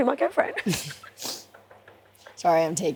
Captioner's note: laughs